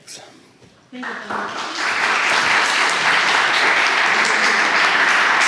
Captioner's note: audience applauding